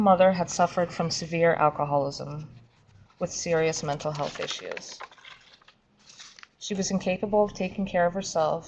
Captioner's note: papers shuffling